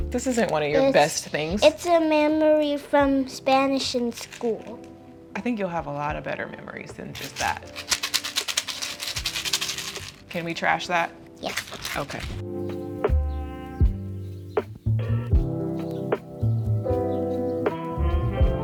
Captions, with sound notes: This isn't one of your best things. - It's a memory from Spanish in school. - I think you'll have a lot of better memories than just that. (rattling sound) Can we trash that? - Yeah. - Okay. (light music)